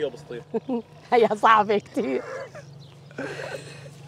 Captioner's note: chuckling